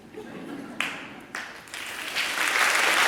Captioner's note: applause